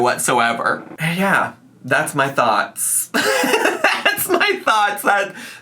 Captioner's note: laughing